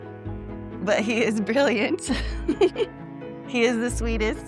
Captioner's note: chuckles